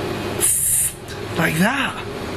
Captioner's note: hissing